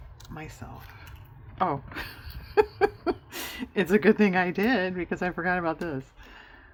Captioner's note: laughs